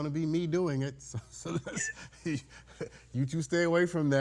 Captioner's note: judge laughing